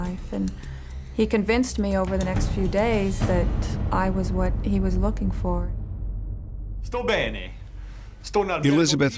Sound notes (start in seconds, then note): 6.6 speaking italian